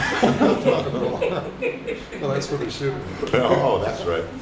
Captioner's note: laughter